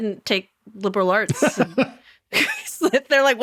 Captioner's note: laughing